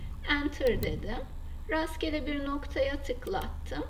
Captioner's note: right mouse click